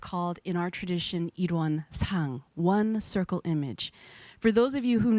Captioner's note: speaking in foreign language